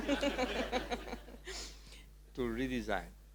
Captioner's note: audience laughing